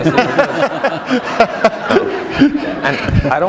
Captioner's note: laughter